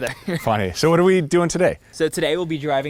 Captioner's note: laughing